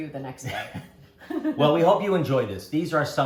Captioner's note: laughing